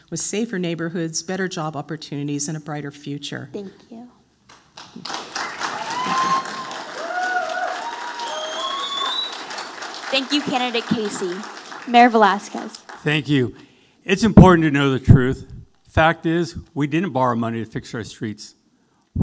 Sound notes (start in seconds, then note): 4.6 audience applauding